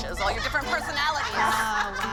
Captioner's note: laughter